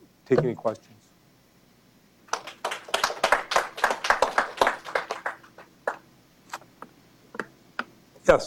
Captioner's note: applause